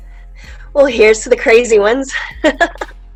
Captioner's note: laughs